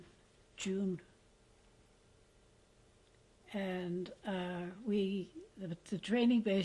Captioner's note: pauses for 3 seconds